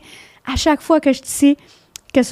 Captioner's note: in french